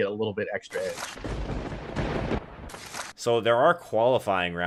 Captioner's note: thunder rumbling